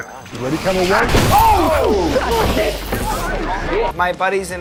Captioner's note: lights crashing